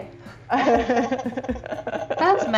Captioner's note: laughing